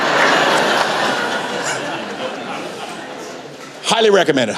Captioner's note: laughter